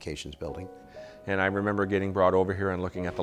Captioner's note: voiceover